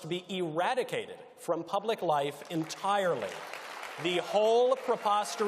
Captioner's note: audience applauds